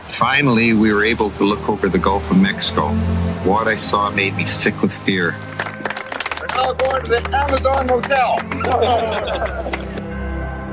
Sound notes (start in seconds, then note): 0.0 waves washing in; 2.5 threatening music; 8.5 people clapping, laughing